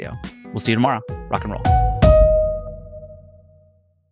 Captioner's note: upbeat sound effect